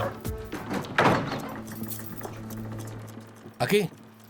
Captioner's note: door clangs; dramatic music